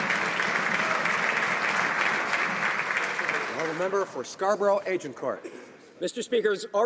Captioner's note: applause